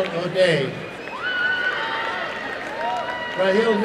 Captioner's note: applause and cheering